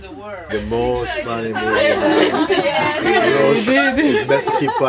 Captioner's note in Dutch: meer gelach